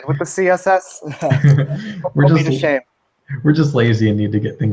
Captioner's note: laugh